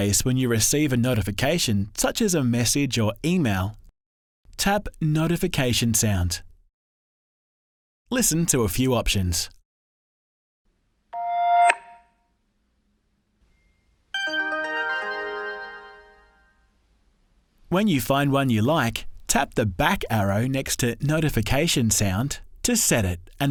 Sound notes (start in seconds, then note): 11.1 notification chiming; 14.1 notification jingling